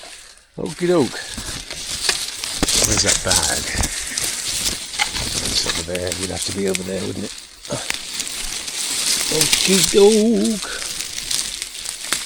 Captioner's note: sing-songy